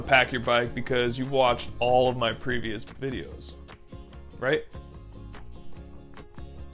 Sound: crickets

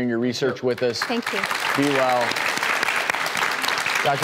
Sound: clapping

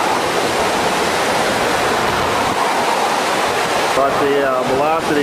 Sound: water rushing loudly

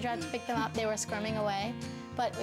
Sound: chuckling

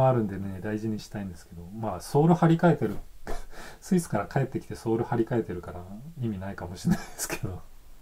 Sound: laughs

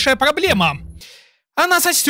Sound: heavy breathing of person that got f**king exhausted

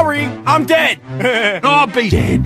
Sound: chuckle

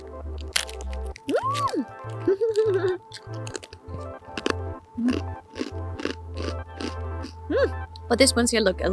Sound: munch munch

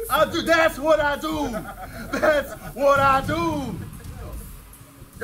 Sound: laugh

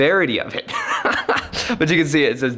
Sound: laughs

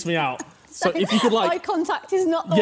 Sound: laughing

